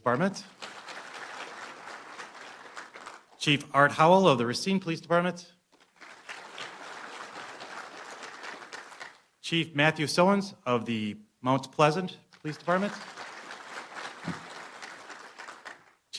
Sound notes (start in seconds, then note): 0.4 applause; 5.8 applause; 12.4 applause